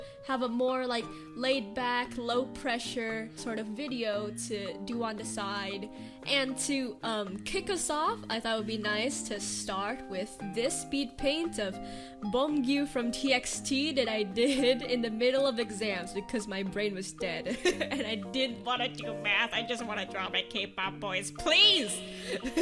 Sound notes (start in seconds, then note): 17.5 giggles; 22.3 laughs